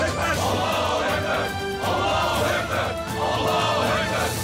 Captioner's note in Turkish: Hep bir ağızdan